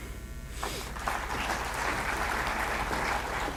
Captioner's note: applause